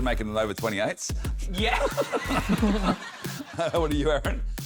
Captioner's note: laughs